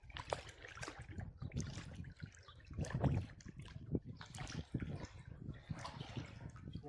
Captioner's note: water splashing